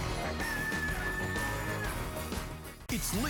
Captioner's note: cock-a-doodle-doo